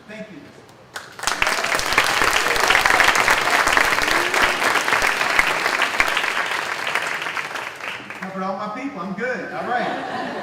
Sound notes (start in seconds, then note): 0.9 clapping